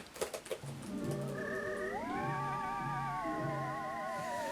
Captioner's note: typing; birds warbling